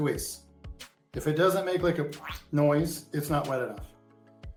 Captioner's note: squelching sound